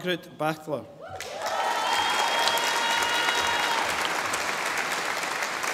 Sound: audience applauding

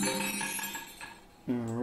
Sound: successful chime; ball rolling

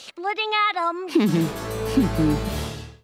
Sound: chuckles

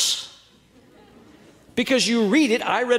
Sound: audience laughing

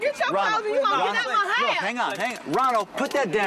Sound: arguing; taser zapping

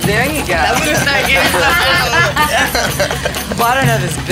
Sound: laughing

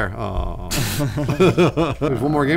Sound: laughing

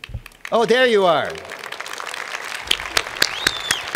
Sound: applause

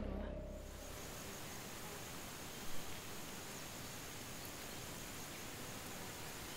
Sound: drone fades to sounds of wind, trees, birds and flies

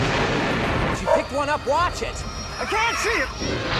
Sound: explosion; bark; chirping

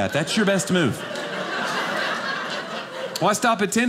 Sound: audience laughing

